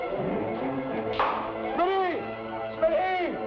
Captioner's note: stone bangs